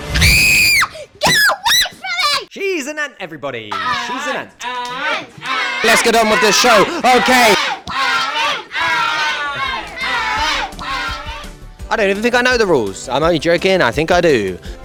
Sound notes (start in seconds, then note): 5.0 chanting; 8.0 chanting cont'd